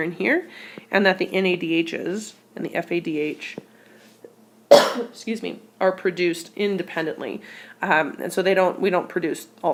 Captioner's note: cough